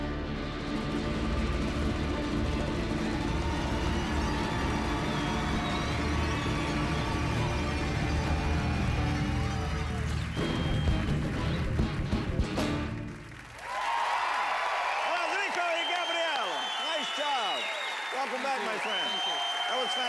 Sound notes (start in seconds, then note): 5.2 cheers and applause